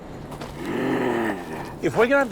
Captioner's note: Zombie Turbo Yoda Noises